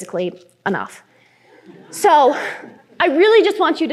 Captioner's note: laughter